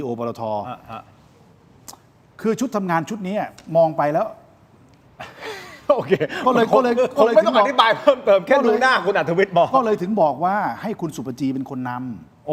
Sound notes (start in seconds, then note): 5.2 laughter